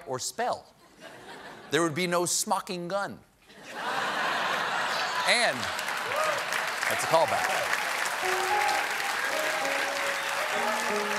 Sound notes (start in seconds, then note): 5.3 applause; 5.6 laughter